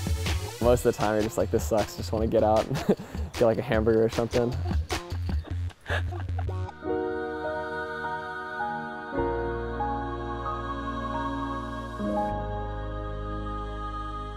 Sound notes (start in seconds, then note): 5.2 laughs